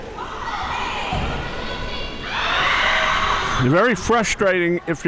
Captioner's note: audience yelling